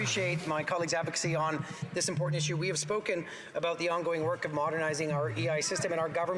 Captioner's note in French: voix de l'interprète